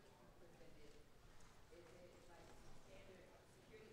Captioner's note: audience Member speaking softly